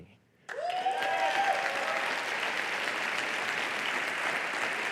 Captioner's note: applause